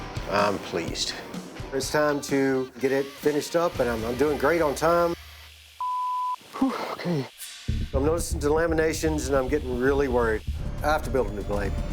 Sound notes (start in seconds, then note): 6.4 exhales